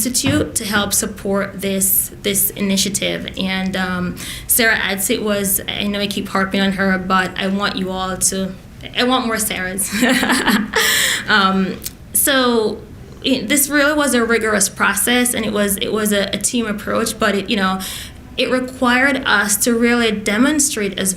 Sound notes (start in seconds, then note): 9.7 laughs